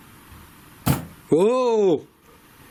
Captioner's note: bang